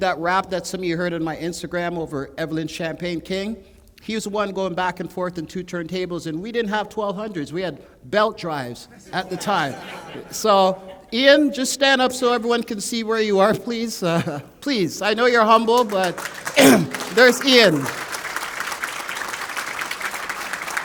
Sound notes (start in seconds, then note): 8.8 laughter; 18.0 applause